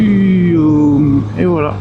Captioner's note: engine